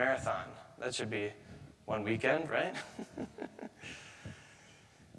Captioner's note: chuckles